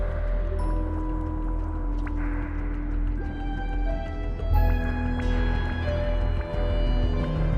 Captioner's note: soft bubbling